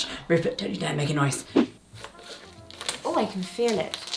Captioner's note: screen whooshing; scissors snipping